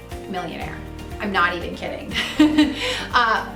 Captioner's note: laughs